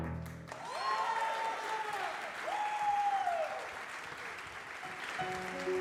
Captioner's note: audience applause